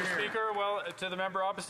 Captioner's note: some Applause